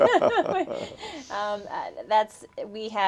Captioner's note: laughter